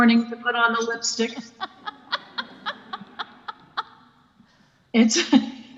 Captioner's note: laugh